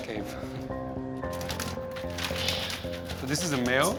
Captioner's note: bats flapping